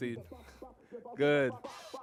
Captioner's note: laughter